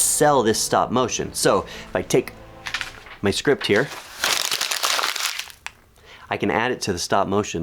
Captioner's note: crunch